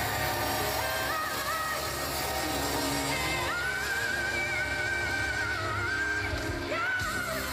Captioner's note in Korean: 박수 갈채